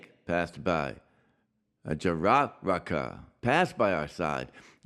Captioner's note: speaks Yanomami